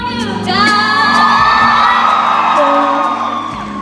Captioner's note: cheering